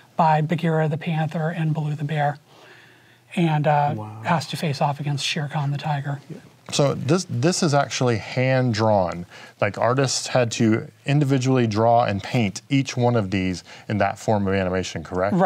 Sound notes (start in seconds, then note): none